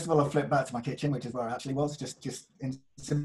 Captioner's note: audio glitches